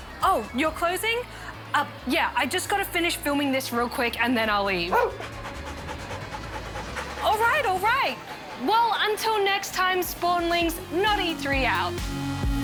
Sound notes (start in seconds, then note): 4.8 barks, pants